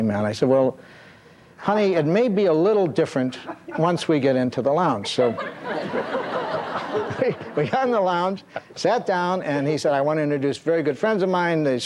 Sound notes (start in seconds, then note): 5.0 audience chuckles